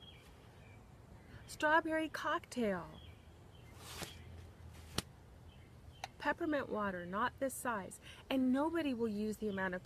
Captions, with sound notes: (birds chirping) Strawberry Cocktail. (rustling) Peppermint Water. Not this size. And nobody will use the amount